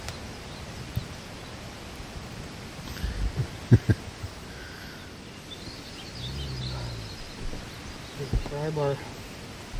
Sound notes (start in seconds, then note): 3.2 laughter; 6.0 brutus groans